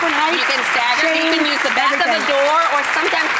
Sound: applause

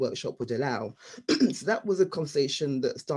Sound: clearing throat

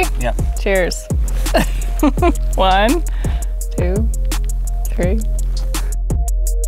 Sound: laughs

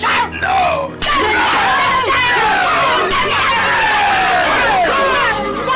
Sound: more yelling

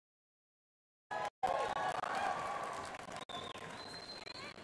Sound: crowd applauding

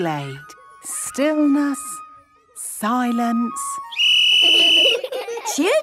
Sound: whistle blowing; laughter

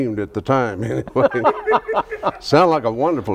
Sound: laughs

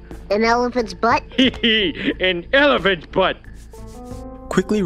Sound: giggle

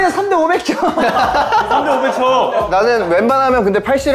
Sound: just laughing

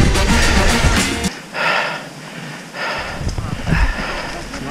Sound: panting

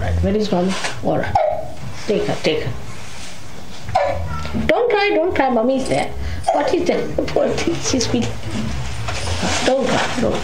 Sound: a baby is crying

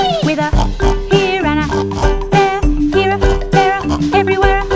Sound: oink

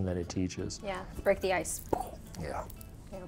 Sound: exhales

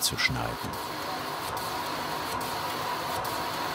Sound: intermittent hissing

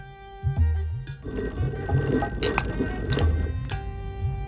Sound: phone ringing

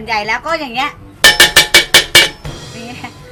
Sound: pan cluttering sound

